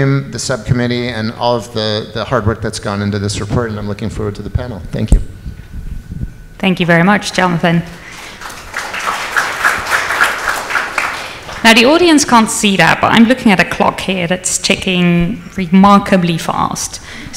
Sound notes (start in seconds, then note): 8.0 audience applauds